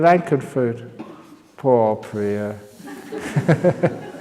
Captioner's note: laughs